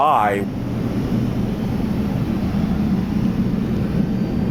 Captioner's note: plane engine roaring